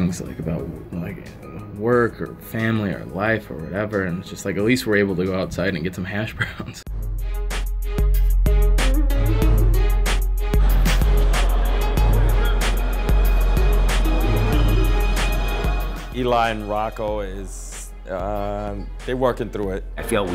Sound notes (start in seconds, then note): 7.0 laughs; 7.4 urban beat music